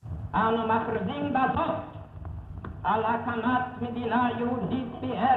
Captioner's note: participants of meeting speaking Hebrew